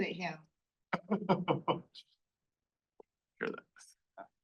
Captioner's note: people laughing